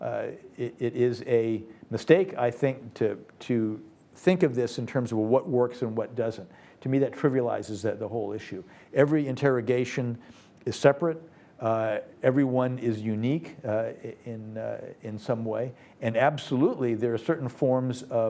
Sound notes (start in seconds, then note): none